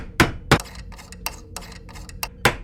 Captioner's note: hammering; screwdriver sounds; hammering